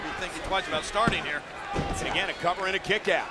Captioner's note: hands thudding; body thudding